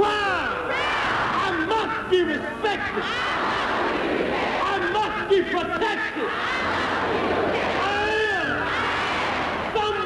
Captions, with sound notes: - Proud. - Proud. - I must be respected. - [Crowd] I must be respected. - I must be protected. - I must be protected. - I am. - I am.